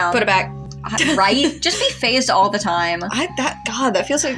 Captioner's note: laugh